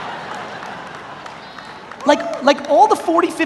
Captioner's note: audience laughs